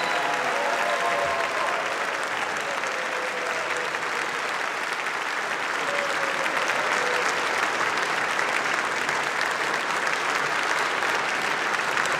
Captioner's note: applause; cheering